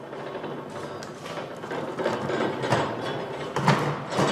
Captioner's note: rolling, clattering